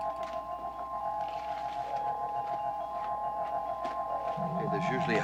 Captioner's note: crystal chiming